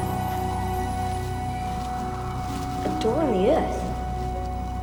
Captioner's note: wind howling